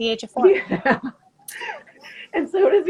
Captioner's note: laughing